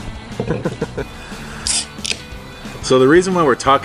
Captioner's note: laughing